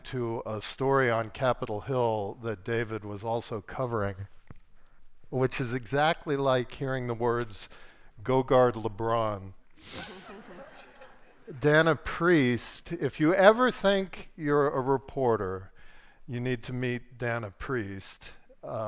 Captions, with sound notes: to a story on Capitol Hill that David was also covering, which is exactly like hearing the words go guard LeBron. (audience laughs) Dana Priest, if you ever think you're a reporter, you need to meet Dana Priest.